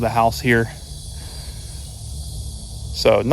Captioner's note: insect chirping